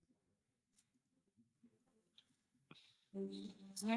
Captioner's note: silence